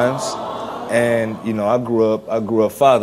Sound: audience awws

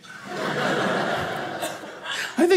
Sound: audience laughing

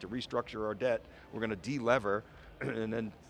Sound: coughs

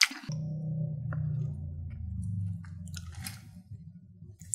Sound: 🛵Motorcycle sounds !!

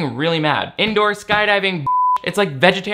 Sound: beep

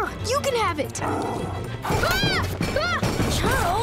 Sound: growling, screaming

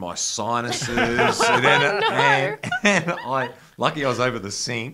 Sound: laughs

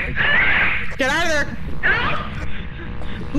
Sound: over Radio; over Radio

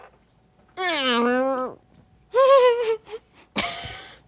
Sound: groaning

